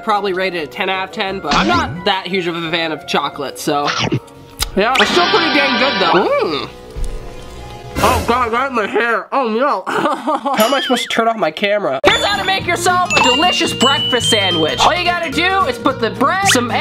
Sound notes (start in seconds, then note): 9.8 laughs